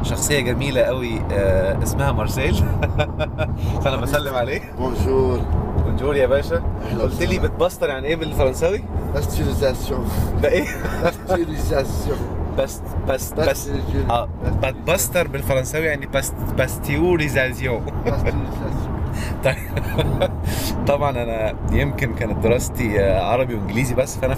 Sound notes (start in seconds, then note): 10.1 French language; 12.4 French language; 19.2 laughs!